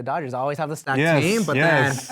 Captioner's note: all laugh